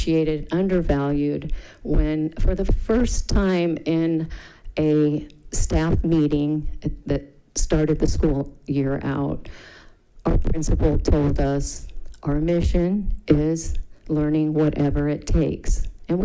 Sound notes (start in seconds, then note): none